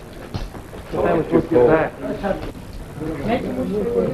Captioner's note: men chattering